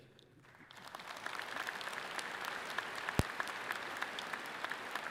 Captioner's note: audience clapping loudly